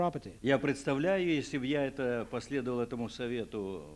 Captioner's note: non-english speech